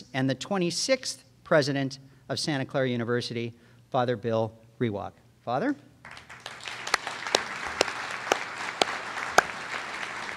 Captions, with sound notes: and the 26th President of Santa Clara University, Father Bill Rewak. Father. (audience applauds)